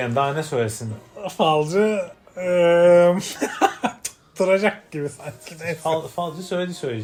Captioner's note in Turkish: kahkaha